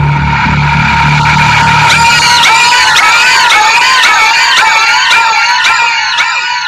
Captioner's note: distorted screaming